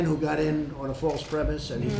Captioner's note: none